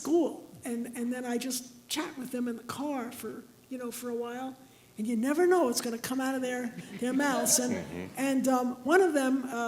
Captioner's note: laughter